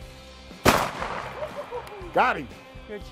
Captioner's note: boom